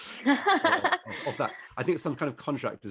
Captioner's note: laughs